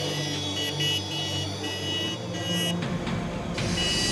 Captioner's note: car horn